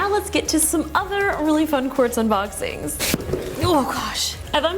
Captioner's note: box thuds; grunts